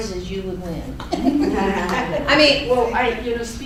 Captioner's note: laughing